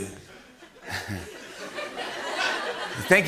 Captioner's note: laughter